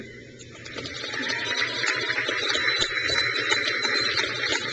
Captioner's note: crowd cheers